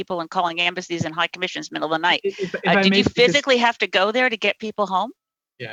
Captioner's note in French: voix de l'interprète